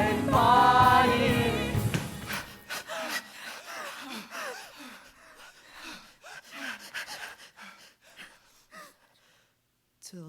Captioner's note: breathing